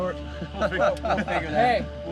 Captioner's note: laughs